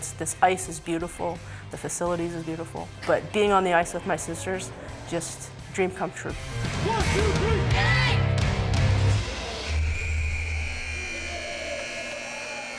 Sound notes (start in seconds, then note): 9.7 buzzer